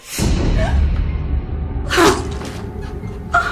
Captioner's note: dramatic music; Carol gasps; fire poker thuds